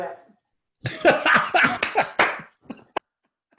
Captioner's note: laughs